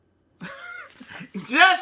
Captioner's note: laughs